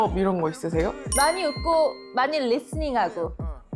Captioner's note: tip-giving sound effect